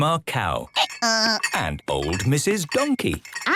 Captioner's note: braying